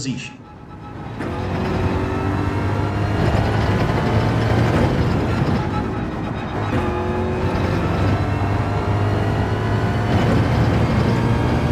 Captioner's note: engines revving, tyres grip, racing sounds